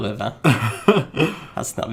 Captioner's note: laughing